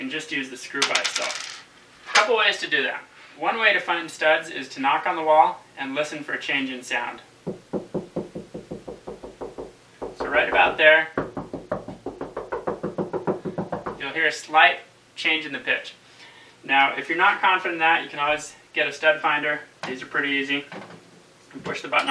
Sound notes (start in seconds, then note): 7.6 knocking